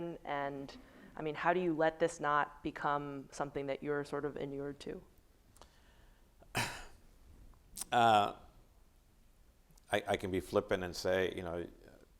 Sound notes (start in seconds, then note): 6.5 coughing